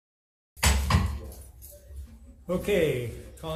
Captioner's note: gavel bangs loudly